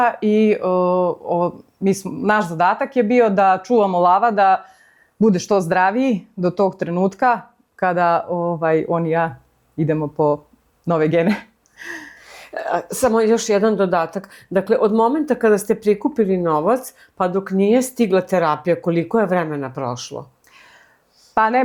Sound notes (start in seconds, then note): 12.0 laughter